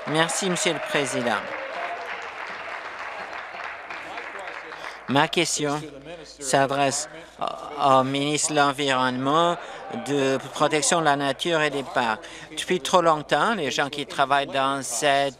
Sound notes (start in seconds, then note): 4.3 applause; 4.7 cheers